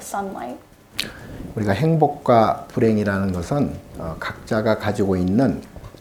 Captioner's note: speaking Korean